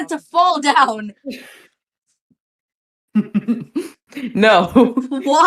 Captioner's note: laughing